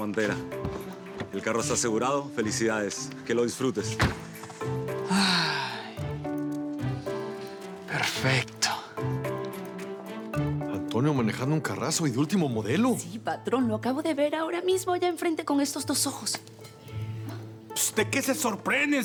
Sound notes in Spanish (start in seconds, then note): 4.9 Suspirando